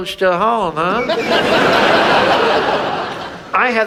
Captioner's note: audience laughs